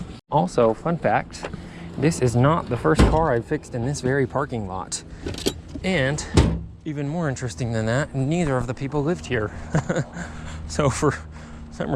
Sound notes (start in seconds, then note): 9.4 chuckles